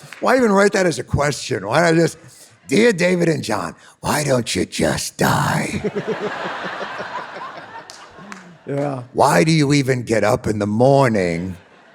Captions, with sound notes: - Why even write that as a question? Why not just, "Dear David and Jon, why don't you just die?" [David and audience laughing] - Yeah. - Why do you even get up in the morning?